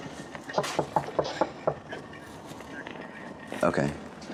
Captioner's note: knocking on the door